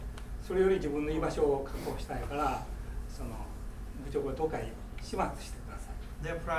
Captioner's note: speaking in foreign language